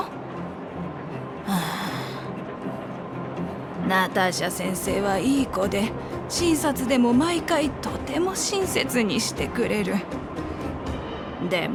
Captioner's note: sigh